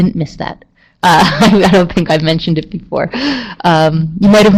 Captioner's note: chuckling